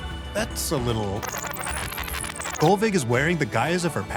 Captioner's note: rewind sound